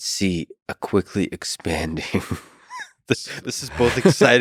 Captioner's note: laughs